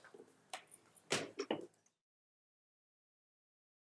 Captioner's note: gavel thuds